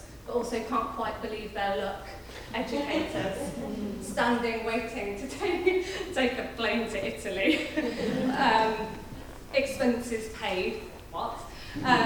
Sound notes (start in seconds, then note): 7.2 laughs; 7.7 audience laughing; 11.8 audience laughing